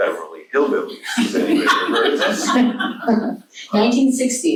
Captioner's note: laughs; audience laughs